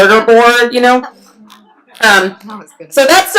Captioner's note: laughs